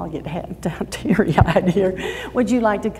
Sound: laughs

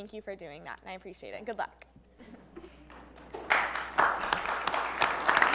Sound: applause

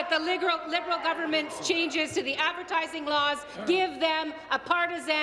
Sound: applause

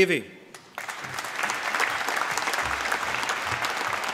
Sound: applause

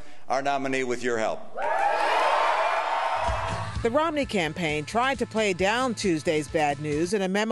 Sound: cheering and applause

